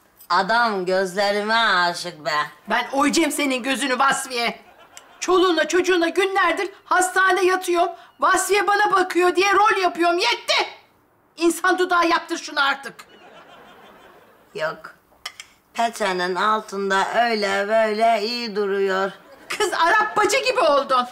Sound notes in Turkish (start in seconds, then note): 12.8 Gülme efekti